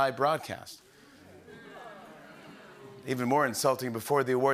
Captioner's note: audience groans